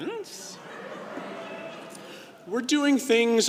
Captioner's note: crowd laughing